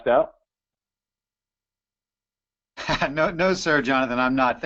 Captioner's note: laughter